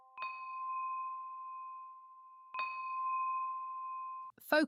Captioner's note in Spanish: Campanas de meditación